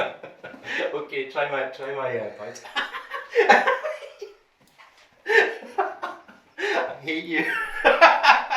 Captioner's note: laughter